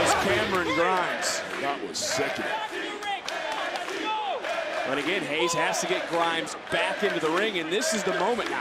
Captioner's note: crowd chants "nxt"